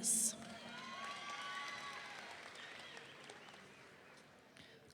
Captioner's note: audience cheering